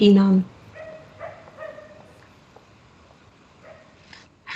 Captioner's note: a dog barks